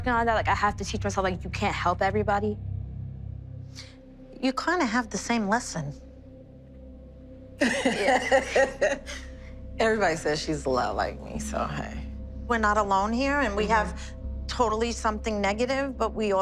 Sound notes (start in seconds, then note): 7.6 laughs